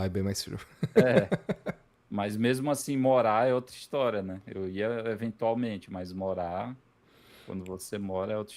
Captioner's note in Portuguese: risadas